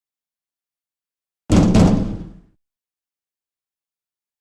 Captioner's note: pound, pound